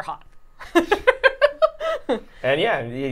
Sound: laughing

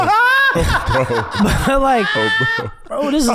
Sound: laughs

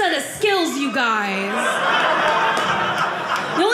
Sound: audience laughing

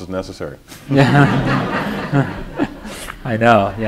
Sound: laughter

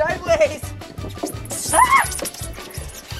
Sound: slide squeaks

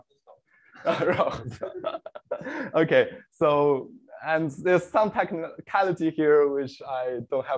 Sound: laughs

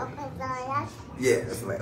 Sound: baby babbles

